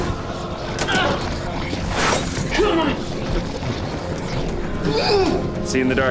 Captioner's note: groaning